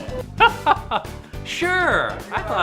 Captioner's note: chuckling